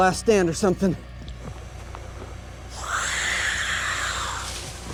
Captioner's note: animal shrieks